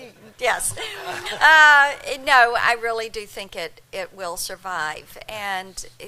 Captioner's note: laughter